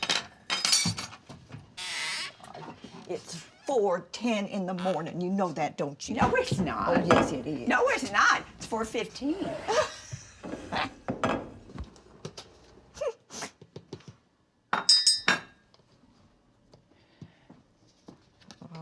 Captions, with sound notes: (cutlery clattering) - It's 4:10 in the morning, you know that, don't you? - No, it's not. - Oh, yes, it is. - No, it's not! It's 4:15. (Dory laughs) (spoon clinking)